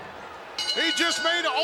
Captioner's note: bell rings